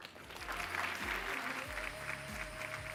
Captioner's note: applause